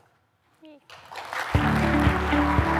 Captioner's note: applause